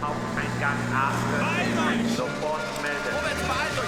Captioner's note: speaking german; speaking german